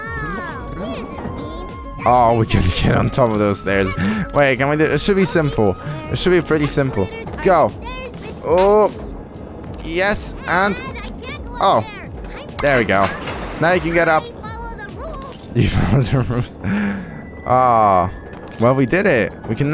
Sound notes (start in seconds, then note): 15.6 laughs